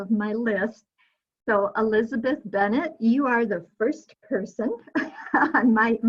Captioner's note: chuckling